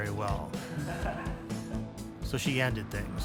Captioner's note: laughs